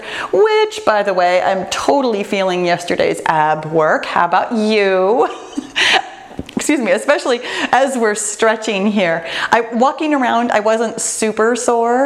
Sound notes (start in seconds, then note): 5.3 laughs